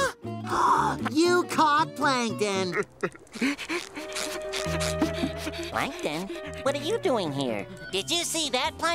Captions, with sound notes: [gasping] You caught Plankton. [crying] Plankton? What are you doing here? Did you see that, Plankton?